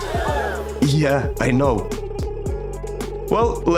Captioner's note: crowd gasps